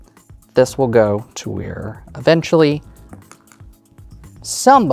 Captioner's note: dice rolling